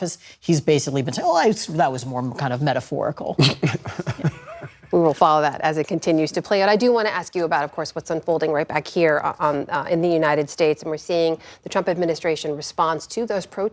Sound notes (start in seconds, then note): 3.4 laughter